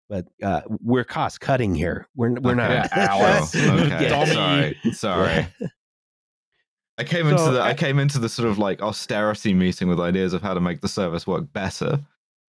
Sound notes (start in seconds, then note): 2.4 laughs